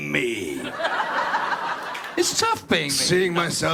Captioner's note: Mark, cynical tone; audience laughs; Jared, raspy British voice